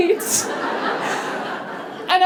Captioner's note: laughter